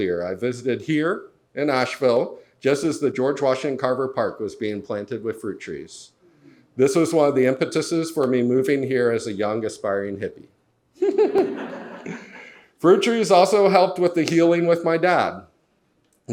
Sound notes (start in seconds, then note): 11.0 laughs; 11.1 audience laughs